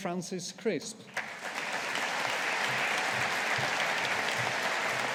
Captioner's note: audience applauding